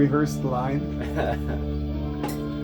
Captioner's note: laughs